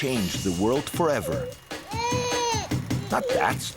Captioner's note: baby cries